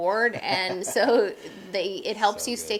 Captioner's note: laughing